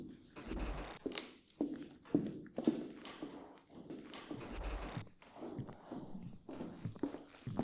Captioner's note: multitude of footsteps